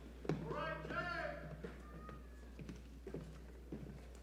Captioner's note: shouting